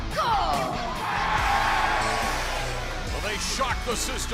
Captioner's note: crowd cheering